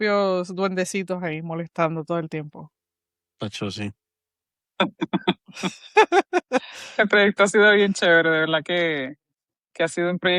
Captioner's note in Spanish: risas